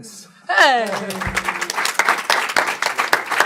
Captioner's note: applause